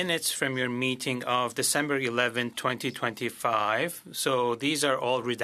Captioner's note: speaking French